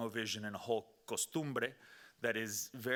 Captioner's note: speaking Spanish